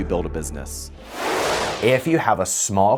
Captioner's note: frame whooshing